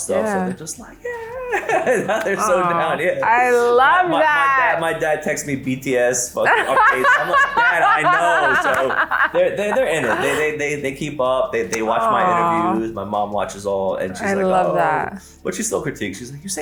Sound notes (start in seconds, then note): 6.4 laughs